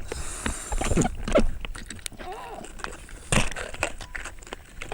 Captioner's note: equipment clattering